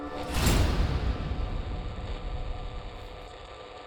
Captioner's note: dramatic bang